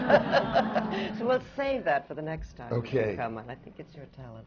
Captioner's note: audience groans